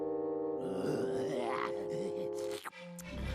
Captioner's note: growling